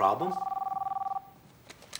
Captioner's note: phone ringing